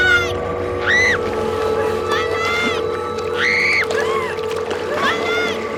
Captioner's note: screaming